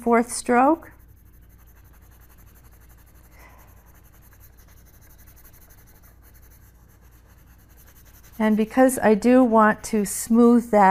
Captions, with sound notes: blend it into the mid tones, that back and forth stroke. (pencil brushing on paper)